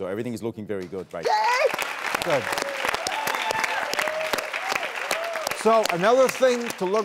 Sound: audience cheers

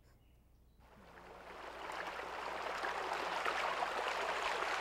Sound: water running

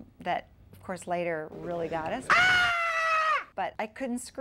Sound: screams

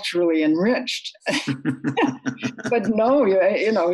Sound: laughs

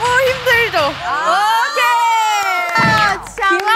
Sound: loud cheers

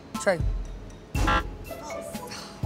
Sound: buzzer

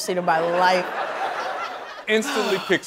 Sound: laughter

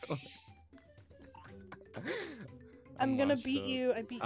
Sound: laughs

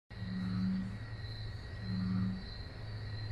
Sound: sounds of wetland wildlife

